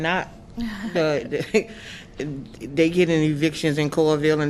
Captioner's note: laughter